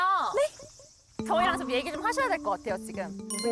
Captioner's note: something-to-say sound effect; confused sound effect